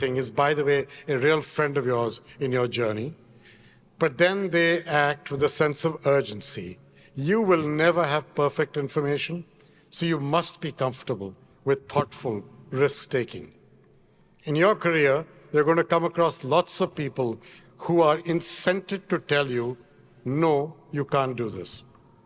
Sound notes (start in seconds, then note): none